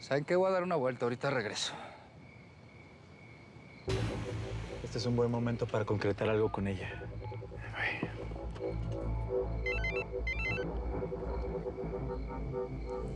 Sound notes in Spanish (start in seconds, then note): 9.6 suena el celular; 10.2 sonido al marcar